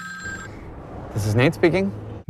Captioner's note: phone rings